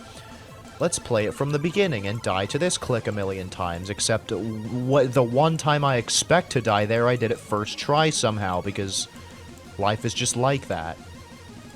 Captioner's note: stutter